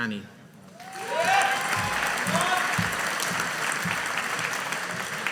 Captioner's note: audience applauding